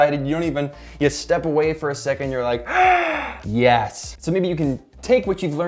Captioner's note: gasping